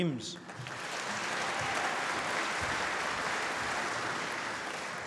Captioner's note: applause